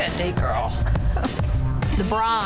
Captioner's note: laughing